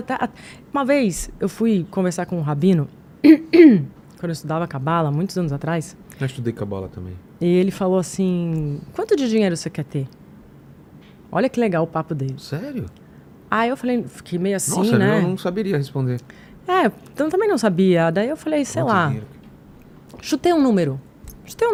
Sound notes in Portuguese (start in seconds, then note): 3.2 limpando a garganta